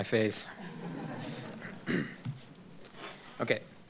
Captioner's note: laughter